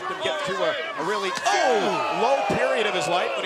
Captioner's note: slap thumping